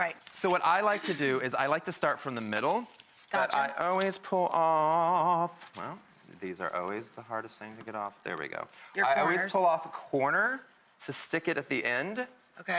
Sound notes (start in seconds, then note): none